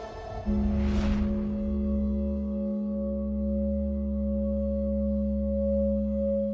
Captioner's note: drawn out metallic chime